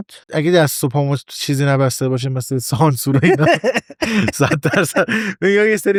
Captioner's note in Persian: خنده